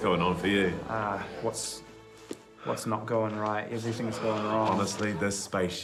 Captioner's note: sighs